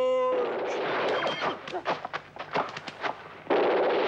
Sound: guns blasting

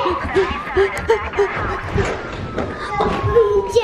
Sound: heavy breathing

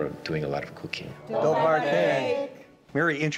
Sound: speaking in Croatian

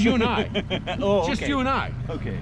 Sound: laughing

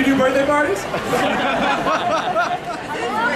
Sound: audience laughing

